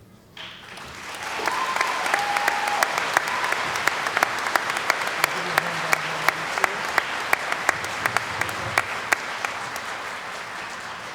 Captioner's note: cheering & Applause